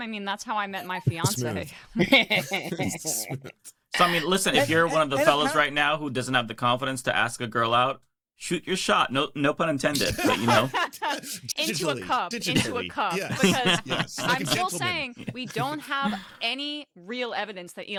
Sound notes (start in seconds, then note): 3.8 laughing; 9.9 laughing